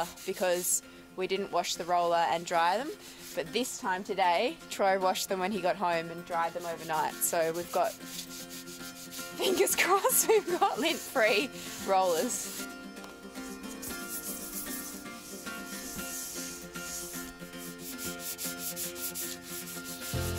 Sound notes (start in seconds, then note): 9.4 laughs; 12.2 gentle music; 13.3 scrubbing; 17.0 light upbeat music